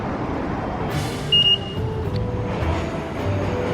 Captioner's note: beeps